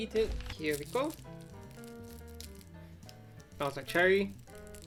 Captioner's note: wrapper crinkles